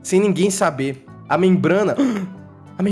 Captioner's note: gasps